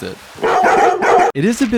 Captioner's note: bark bark bark bark